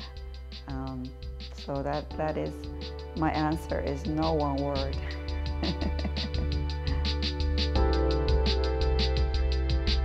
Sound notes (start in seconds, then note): 5.6 laughs